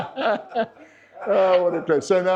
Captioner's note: laughter